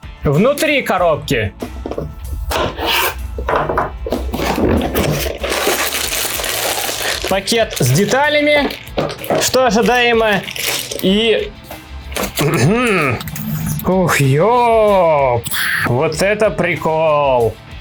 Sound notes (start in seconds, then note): 2.5 cardboard rustling; 3.4 knife hits table; 3.5 plastic bag crunching